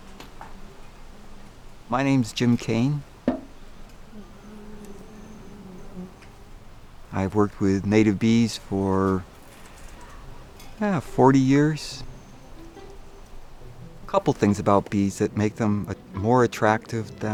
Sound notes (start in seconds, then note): 5.0 bees buzzing; 12.1 light string music